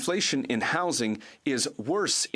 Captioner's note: speaking French